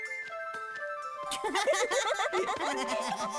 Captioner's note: laughing